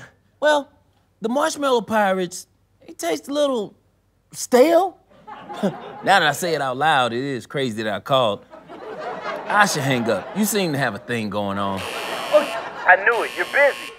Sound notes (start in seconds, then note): 0.0 light stammering; 5.2 chuckles; 5.2 audience laughter; 11.8 alarm buzzing